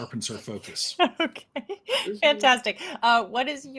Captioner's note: chuckles